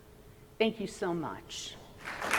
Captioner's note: applause